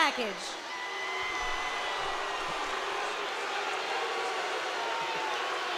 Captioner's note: audience shouting